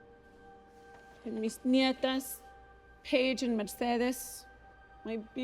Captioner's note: spanish